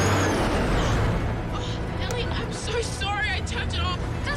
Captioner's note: gasps